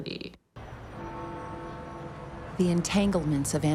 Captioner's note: bell tolls